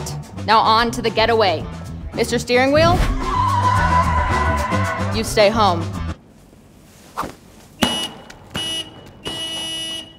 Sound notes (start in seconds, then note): 2.9 tires screeching; 5.9 music stops; 7.8 honk; 9.2 elongated honk